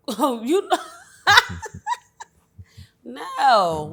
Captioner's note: laughs